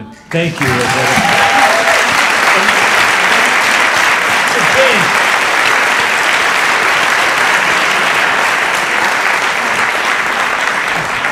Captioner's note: applause